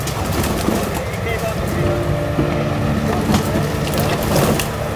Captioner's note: branches cracking; leaves rustling; people chattering